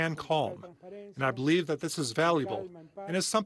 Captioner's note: speaking non-english